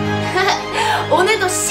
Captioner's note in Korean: 들숨